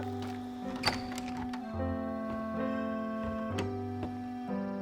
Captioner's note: melancholy music; doorknob creaking